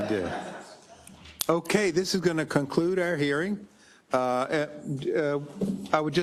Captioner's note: laugh